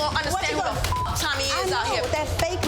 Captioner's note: beep